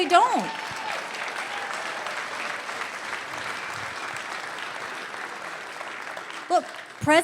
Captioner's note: audience cheers and applause